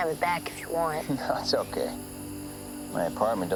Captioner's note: chuckles